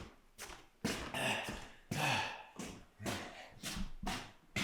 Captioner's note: Jacob panting